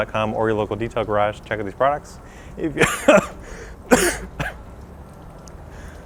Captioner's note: coughing